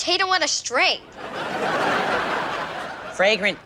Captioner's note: audience laughs